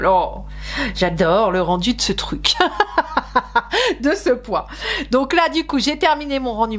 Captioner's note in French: rires